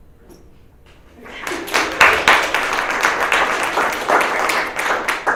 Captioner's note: audience claps